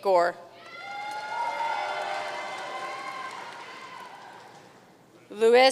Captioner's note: audience cheering and applauding